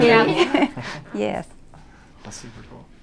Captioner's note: all laugh